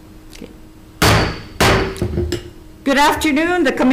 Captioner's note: gavel bangs twice